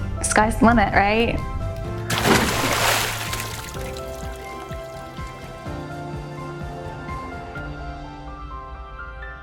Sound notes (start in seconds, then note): 2.0 water splashing; 4.9 uplifting music